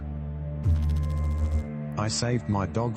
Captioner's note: electrical noise